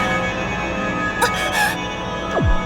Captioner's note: chuckle; gasp